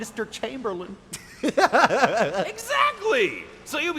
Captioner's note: laugh